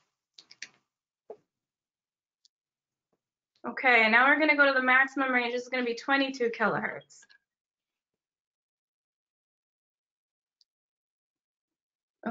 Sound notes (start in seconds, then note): 0.1 silence; 8.3 silence